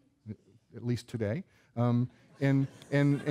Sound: audience laughing

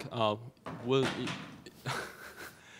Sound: object thudding on the floor; chuckling

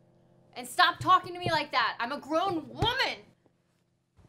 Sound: pounds on pillows

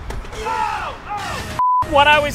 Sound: test tone

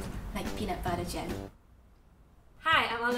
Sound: silence

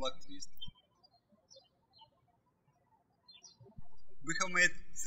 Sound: birds chirping

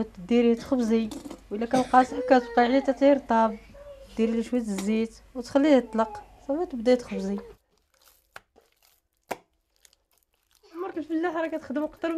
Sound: non-english speech

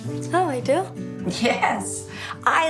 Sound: laughs

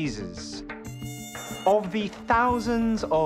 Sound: mosquito buzzing

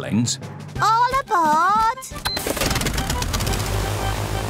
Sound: engines whirring

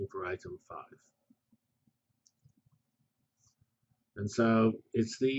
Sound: pause

